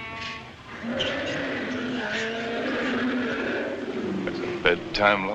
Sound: lion Roaring

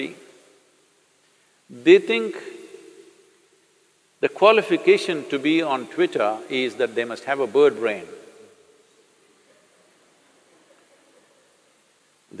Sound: laughter

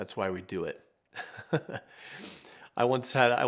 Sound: chuckles

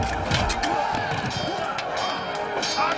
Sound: metal clanging

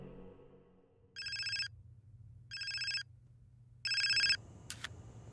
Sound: cell phone ringing

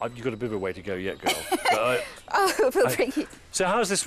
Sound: aide laughing

